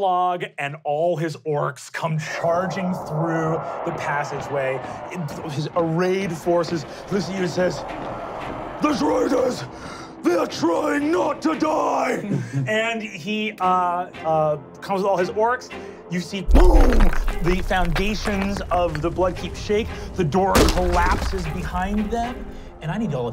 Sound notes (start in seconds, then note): 16.5 rumbling and cracking